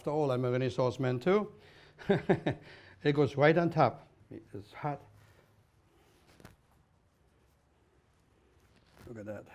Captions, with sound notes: AFTER ALL, I'M A RENAISSANCE MAN TOO-- [laughs] THAT GOES RIGHT ON TOP. IT IS HOT.